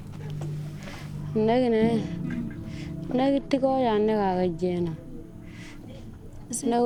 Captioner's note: speaking in foreign language